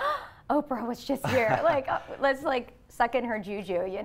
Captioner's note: gasps